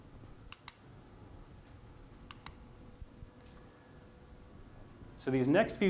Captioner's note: silence